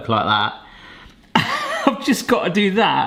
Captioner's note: laughing